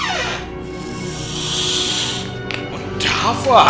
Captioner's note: "Hissing" of a toy snake